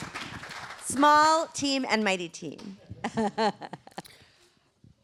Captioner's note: laughter